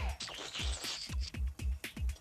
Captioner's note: slurping